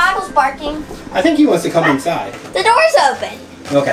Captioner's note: dog barking